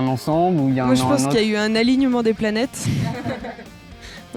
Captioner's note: laugh